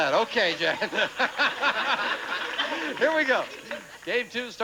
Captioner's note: audience laughing